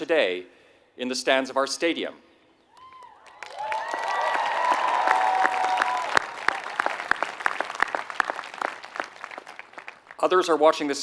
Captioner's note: applause